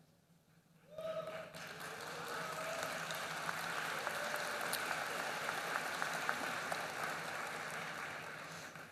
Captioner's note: applause